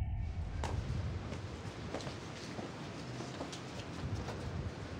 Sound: footsteps shuffle

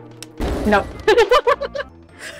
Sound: laughing

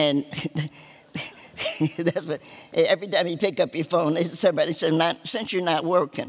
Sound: laughter

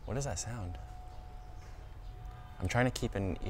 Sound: distant ringing bell sound

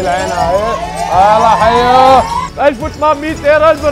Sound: indistinct chatter; crowd cheers

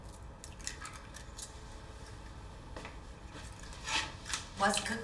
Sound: sizzling

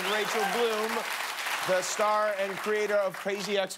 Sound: cheers and applause

